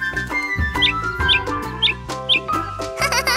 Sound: squeaking

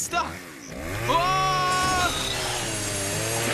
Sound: screaming

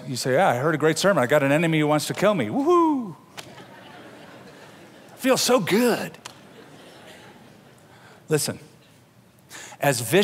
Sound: laughter

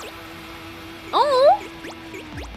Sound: coos

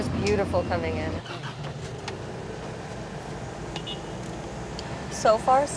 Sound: car starting

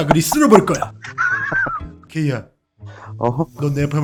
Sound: laughter

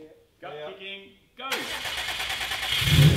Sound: engine starts and revs slightly; engine turns over

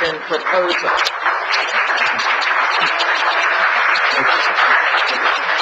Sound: audience applauds

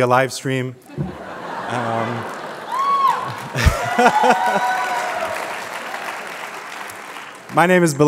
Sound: applause

